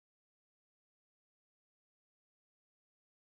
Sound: none

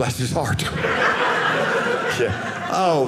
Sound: audience laughing

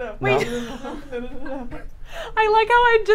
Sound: all laugh

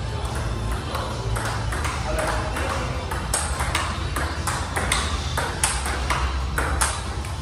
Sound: ball tapping rapidly

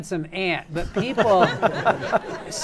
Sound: laughter

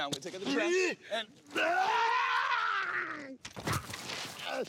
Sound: screams; groans

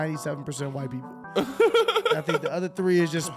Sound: laughing

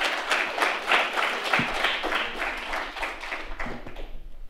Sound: applause

